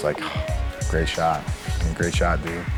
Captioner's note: sisighghs s